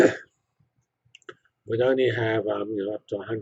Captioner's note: cough